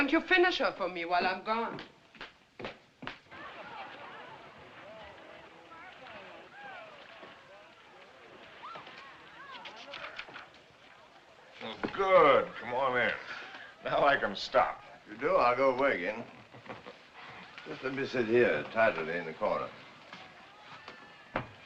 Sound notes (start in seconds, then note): 3.2 laughing, Chattering; 17.2 chuckles